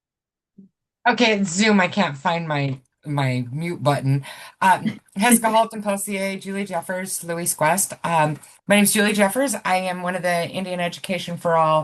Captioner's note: speaks Heritage Language